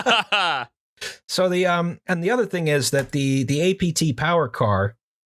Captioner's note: laughter